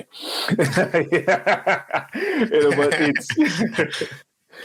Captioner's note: speakers laughing